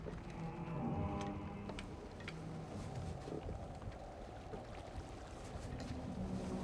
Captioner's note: ship creaking; water sloshing